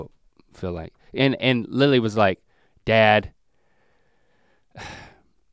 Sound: sighs

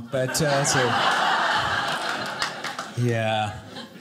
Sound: audience laughing

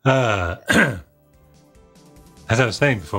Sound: throat clearing

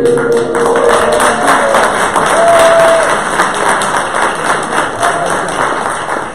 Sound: applause

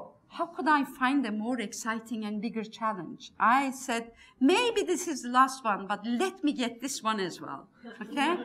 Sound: laughs

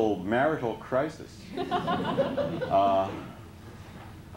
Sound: laughter

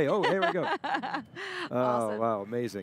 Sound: laughing

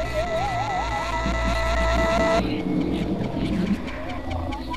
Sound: on TV

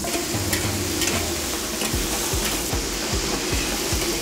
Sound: food sizzling

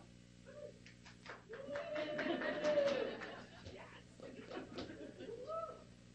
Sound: clapping and cheering

